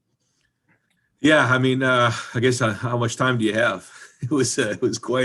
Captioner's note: chuckles